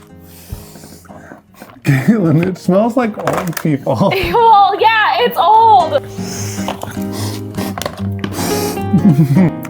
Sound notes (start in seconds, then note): 6.0 sniffing; 6.0 sniffs; 8.8 laughs